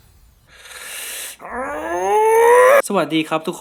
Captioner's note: extremely unhappy noises